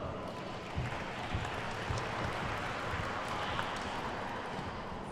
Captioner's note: attendees clapping